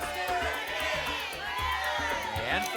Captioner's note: audience shouting numbers